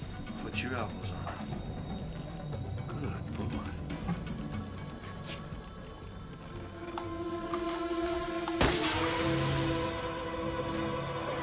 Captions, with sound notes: Put your elbows on it. Good boy. (soft intense music) (gun firing)